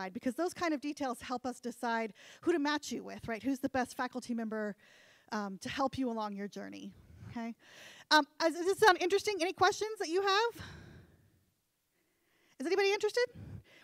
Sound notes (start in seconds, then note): none